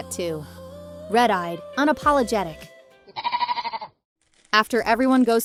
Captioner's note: bleating